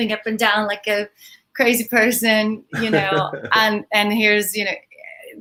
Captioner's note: laughs